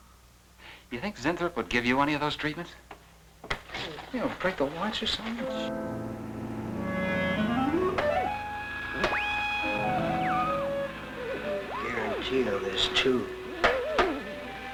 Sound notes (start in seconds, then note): 5.9 mysterious music; 8.5 whistling